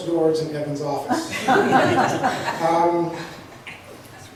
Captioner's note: laughs